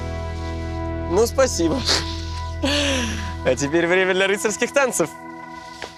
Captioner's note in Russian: смеётся